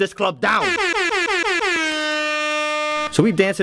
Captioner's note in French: bruits de klaxon d'air